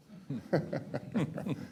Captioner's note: laughter